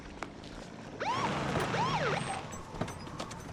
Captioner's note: siren chirps